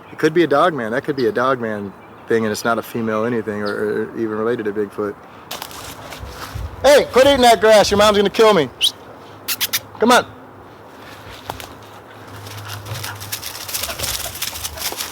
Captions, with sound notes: But that could be a Dogman thing. It's not a female anything or even related to Bigfoot. Hey! Quit eating that grass. Your mom's gonna kill me. [whistles] Come on. [panting]